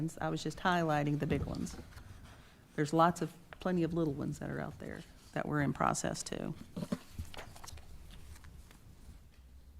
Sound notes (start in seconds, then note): 6.7 paper rustling